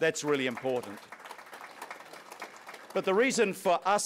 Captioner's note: audience applauds